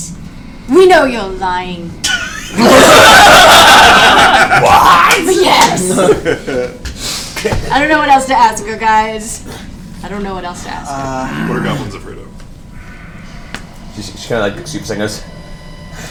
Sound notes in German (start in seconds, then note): 2.0 Gelächter